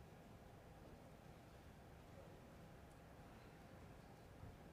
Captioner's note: none